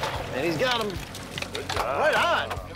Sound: net splashing in water

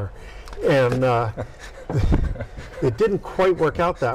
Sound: laughing

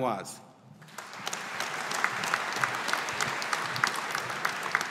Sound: audience applauding

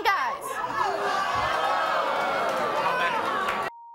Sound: audience gasps

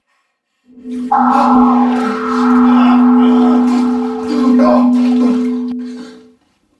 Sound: high pitch sound

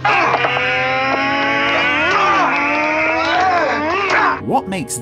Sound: roaring like an aeroplane engine

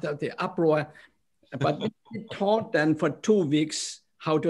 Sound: laughter

